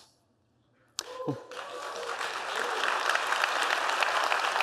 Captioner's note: applause